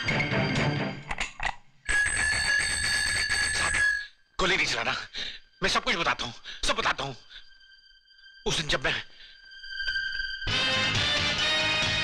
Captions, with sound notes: (Bell Sound) Sir, don't shoot, I'll tell you everything. That day..